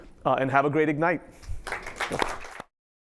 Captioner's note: applause